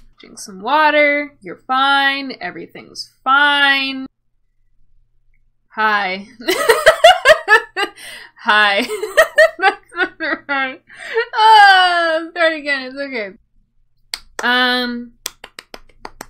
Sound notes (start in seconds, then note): 5.7 raspy; 7.4 laughs